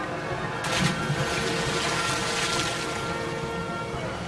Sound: splash

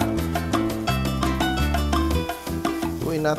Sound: sizzling sound

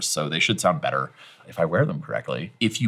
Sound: none

